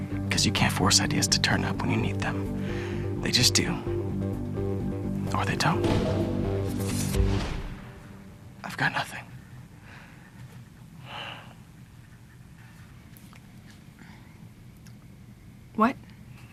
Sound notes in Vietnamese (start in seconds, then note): 9.8 không gian tĩnh mịch; 9.8 thở dài